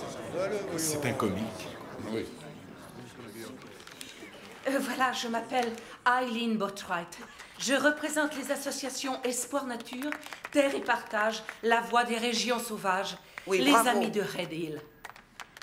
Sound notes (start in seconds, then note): 0.0 crowd murmuring; 7.2 clapping; 9.7 clapping